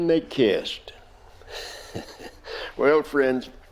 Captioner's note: Cyrus Laughing